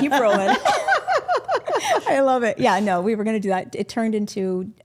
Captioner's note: group laughing